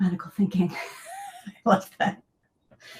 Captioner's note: laughs